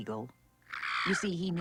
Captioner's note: squawking